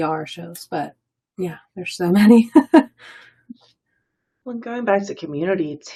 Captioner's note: laughs